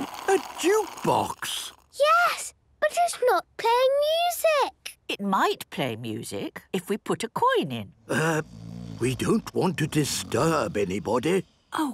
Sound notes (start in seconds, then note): 8.0 people snoring